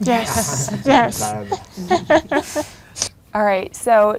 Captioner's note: laughs